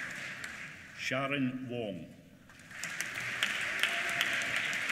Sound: applause

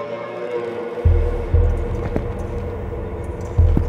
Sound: soft footsteps

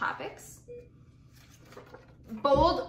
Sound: beeping

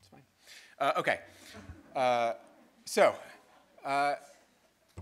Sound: people laughing

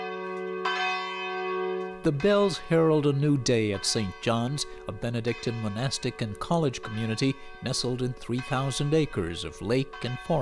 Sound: bells tolling

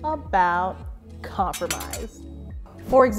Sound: swords clatter

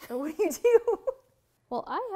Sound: both laugh

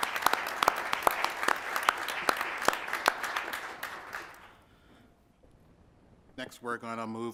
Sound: applause

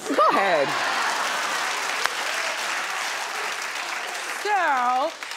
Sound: audience cheers

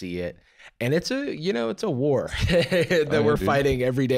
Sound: laughs

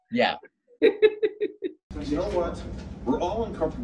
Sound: laughing

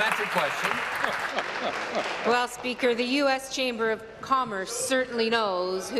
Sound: applause

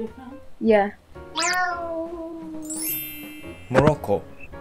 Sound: cute voice

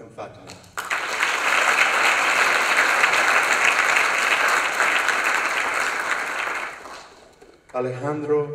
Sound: applause

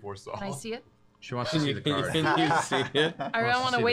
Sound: laughing

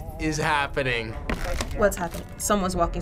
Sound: floorboard creaking

